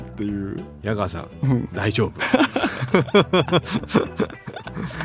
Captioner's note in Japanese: 笑い